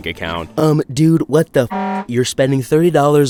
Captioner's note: horn honking